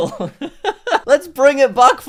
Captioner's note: laughter